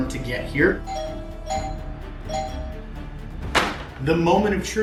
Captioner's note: doorbell rings